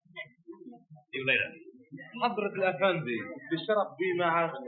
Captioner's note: man speaking in Arabic